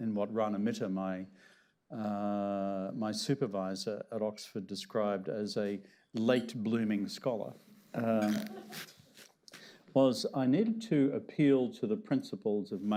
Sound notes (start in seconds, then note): 8.2 laughter